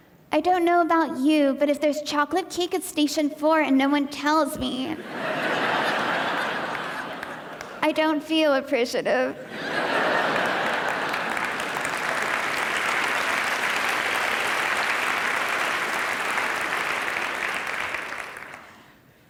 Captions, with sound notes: I don't know about you, but if there's chocolate cake at station four and no one tells me ... (audience laughing) I don't feel appreciative. (audience applause)